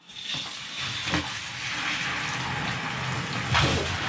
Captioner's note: water running